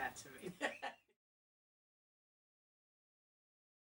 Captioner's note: chuckles